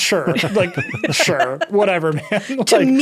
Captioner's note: laughing